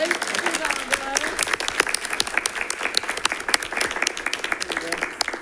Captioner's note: attendees applauding